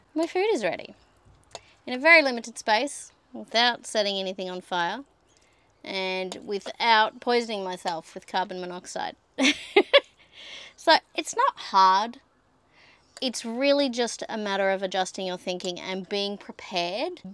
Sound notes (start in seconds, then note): 9.6 laughs